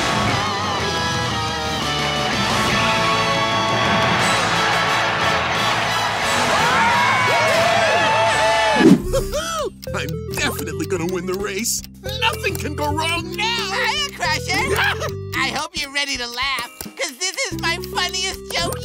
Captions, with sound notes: [cheering] Woo hoo! I'm definitely gonna win the race. Nothing can go wrong now! Hiya Crusher, I hope you're ready to laugh because this is my funniest joke yet!